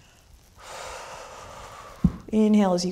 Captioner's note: exhaling